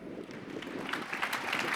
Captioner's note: applause